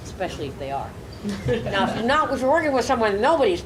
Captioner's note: audience laughing